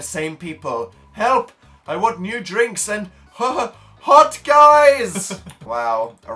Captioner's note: laughs